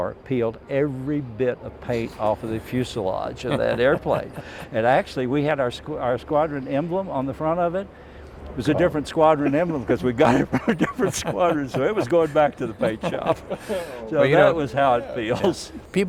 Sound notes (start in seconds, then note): 3.1 laughing; 10.1 laughing